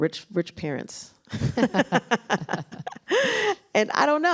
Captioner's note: laughter